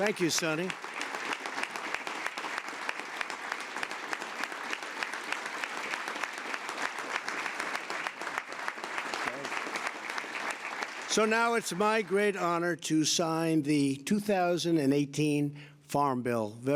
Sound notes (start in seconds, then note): 2.2 applause